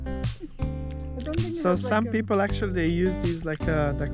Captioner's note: hmm